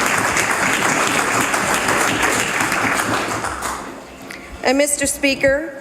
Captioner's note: some Applause